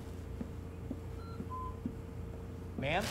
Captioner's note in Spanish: Pitido